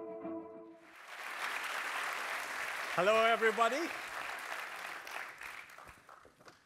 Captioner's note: applause